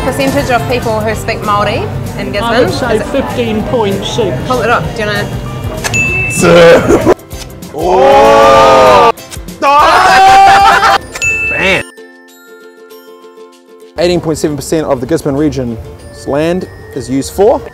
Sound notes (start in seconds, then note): 5.9 ding!; 6.7 laughter; 10.3 more laughter; 11.2 ding!